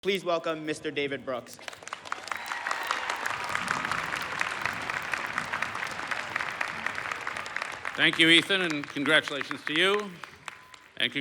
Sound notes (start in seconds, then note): 1.6 applause